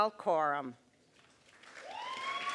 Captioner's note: applause